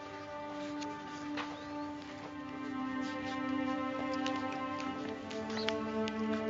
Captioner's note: soft rustling